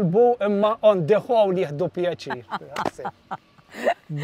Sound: laughs

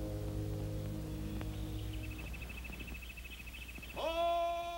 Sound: bird chirping

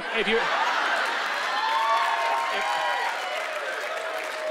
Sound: laughter

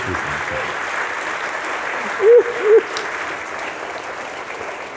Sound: applause

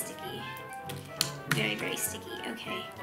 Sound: smacking

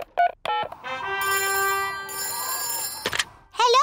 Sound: dialing; phone rings

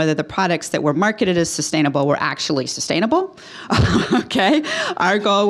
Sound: laughing

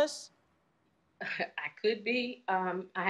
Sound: chuckles

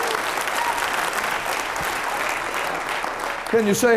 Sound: cheering and applauding

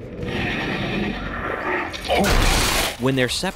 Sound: crashes

